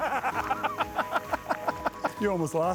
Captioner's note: laughs